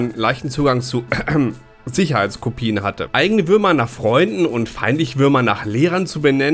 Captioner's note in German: räusper